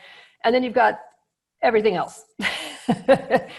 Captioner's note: laughs